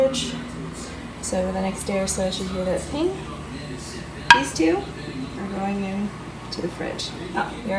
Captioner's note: sound of jar ping